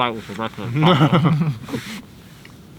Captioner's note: both laugh